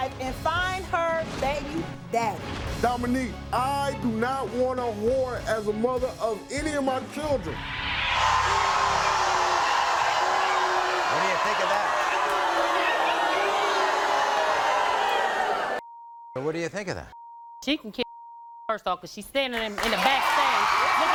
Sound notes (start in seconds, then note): 7.9 crowd booing; 18.0 beep